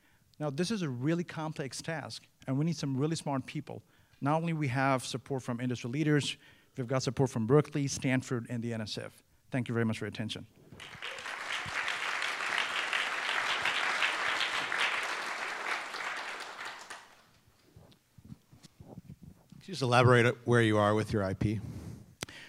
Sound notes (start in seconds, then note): 10.7 applause